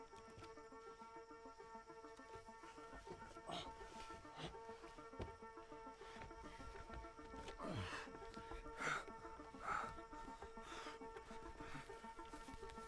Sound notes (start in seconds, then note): 3.7 Caleb sighing; 8.0 Caleb panting